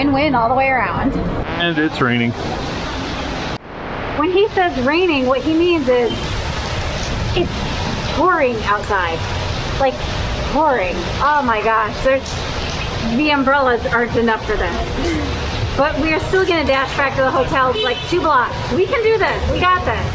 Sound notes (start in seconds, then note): 11.5 pouring